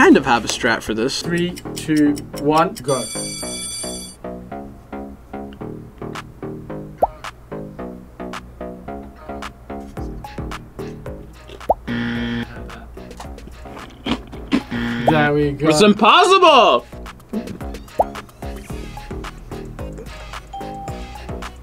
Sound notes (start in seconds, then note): 2.8 bell rings; 11.2 quiet crunch; 11.9 buzzer; 13.6 blatant crunching; 14.6 buzzer; 20.5 ding